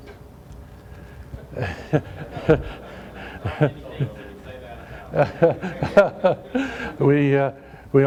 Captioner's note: laughter